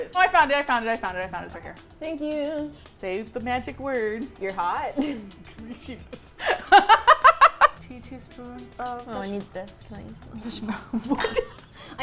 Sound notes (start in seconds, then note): 4.9 laughing; 4.9 laughs; 10.6 laughs